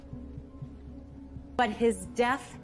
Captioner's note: none